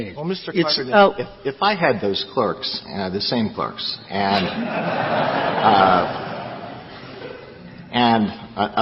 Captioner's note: laughter